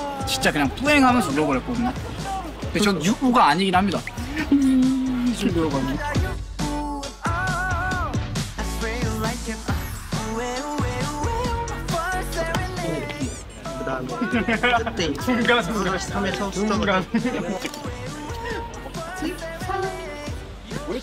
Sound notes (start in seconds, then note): 4.2 crying so much; 14.0 laughing